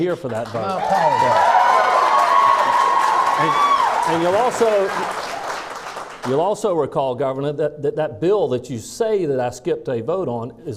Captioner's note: clapping